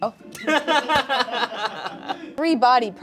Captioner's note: everyone laughs